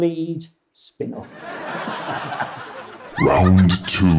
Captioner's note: audience laughs